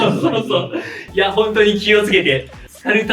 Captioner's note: laughs